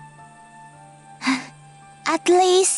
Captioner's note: sighs